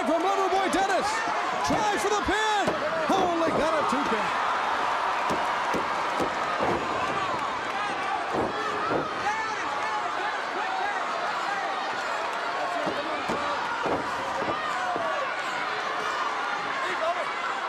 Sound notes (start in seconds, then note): 5.1 crowd cheering